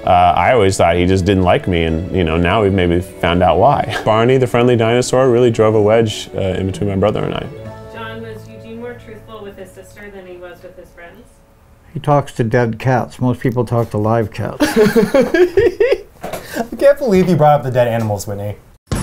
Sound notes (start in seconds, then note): 14.6 man laughs